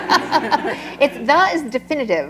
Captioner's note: laughter